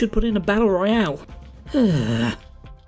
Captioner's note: sigh